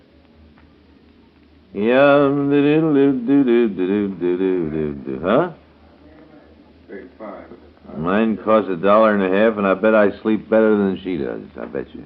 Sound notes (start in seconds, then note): 1.6 humming